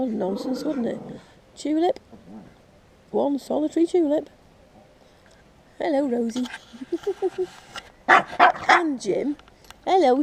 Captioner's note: barking sounds